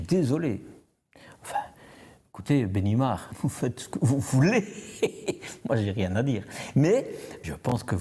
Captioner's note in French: rires